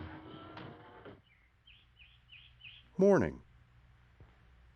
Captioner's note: birds chirping